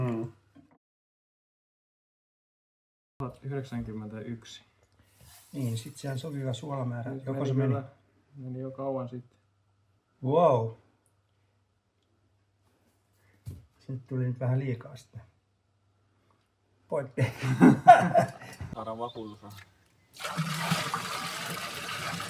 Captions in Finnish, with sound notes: Mm. 1091. Niin sit siellä on sopiva suolamäärä. Meni jo kauan sitten. Wow. Se nyt tuli nyt vähän liikaa sitten pointti. Poikki! [naurua] Saadaan vakuutusrahat sitten